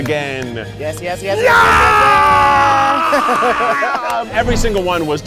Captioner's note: screams